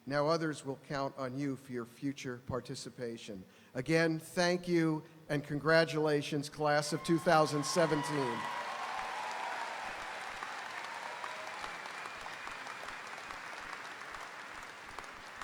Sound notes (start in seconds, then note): 6.8 audience cheering; 6.9 audience applauding